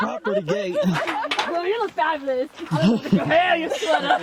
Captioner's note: laughing